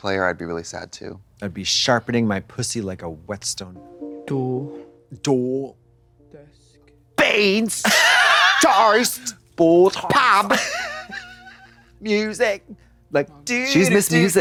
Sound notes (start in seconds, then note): 7.2 Katya heaves